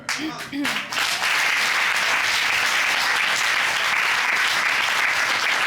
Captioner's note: applause